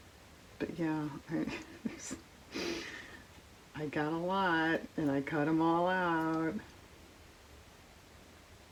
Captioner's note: laughs